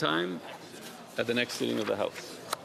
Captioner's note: speaking French